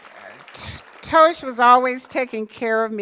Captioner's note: applause